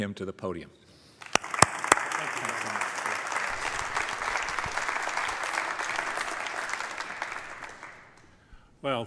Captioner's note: applause